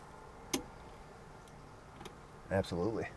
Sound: ignition switch clicking

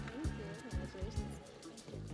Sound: crowd cheering

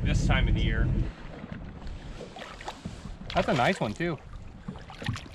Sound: fish splashing

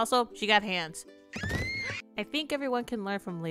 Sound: screams

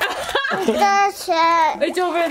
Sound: laughs; babbles

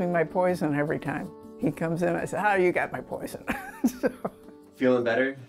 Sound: chuckles

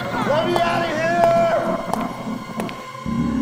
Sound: Jesse shouting

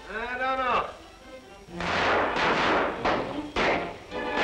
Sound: gunshots

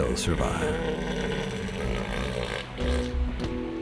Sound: bellowing

